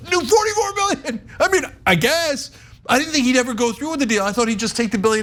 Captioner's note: laugh